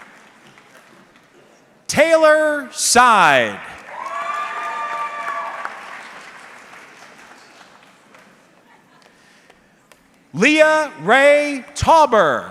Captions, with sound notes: Taylor Side. (audience cheering) Leah Ray Tauber.